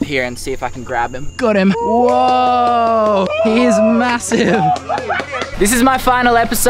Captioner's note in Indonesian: laugh